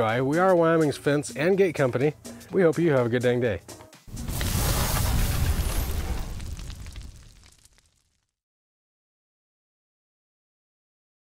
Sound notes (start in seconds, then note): 4.1 logo sizzling